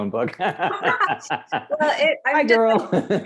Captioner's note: laughs loudly